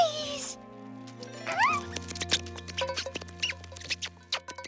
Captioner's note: squirrels Squeaking